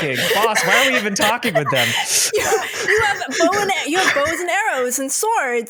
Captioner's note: laughter